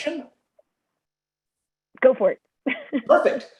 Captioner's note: laughter